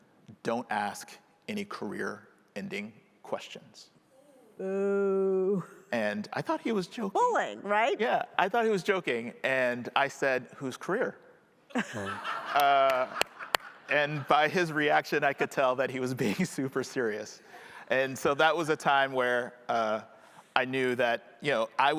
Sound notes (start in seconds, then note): 11.8 audience laughing